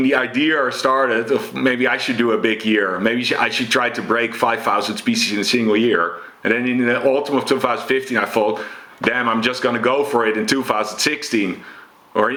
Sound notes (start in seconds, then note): none